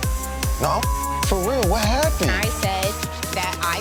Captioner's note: beep